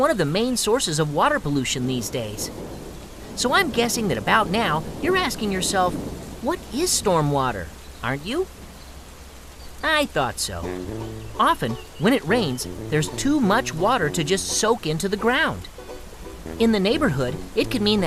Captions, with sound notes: I call it a mess and it's one of the main sources of water pollution these days. [thunder rumbling] So, I'm guessing that about now, you're asking yourself what is stormwater? Aren't you? I thought so. [positive music] Often when it rains there's too much water to just soak into the ground. In the neighborhood,